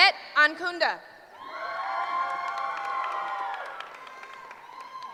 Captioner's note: cheering